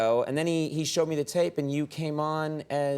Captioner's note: none